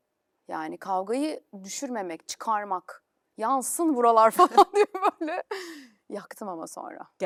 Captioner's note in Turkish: kahkaha